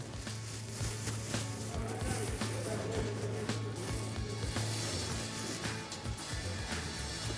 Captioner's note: plastic bag crinkling